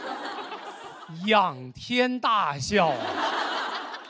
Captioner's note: laughing